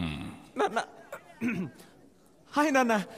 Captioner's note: Clears throat